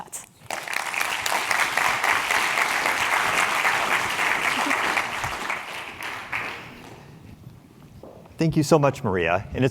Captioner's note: applause